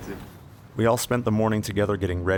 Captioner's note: voiceover